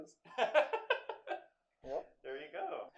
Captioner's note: laughter